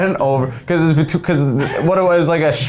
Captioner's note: stuttering